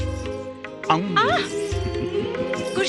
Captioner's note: groaning